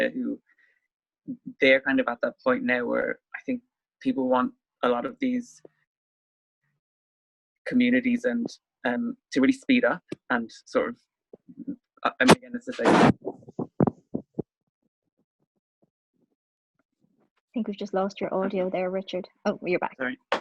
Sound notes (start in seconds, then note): 12.0 audio blurs